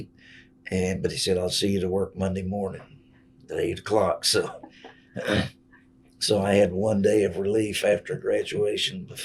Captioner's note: laughs